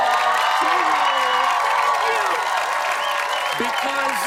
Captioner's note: cheers and applause